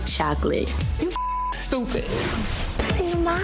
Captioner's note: beep